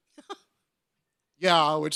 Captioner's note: woman chuckles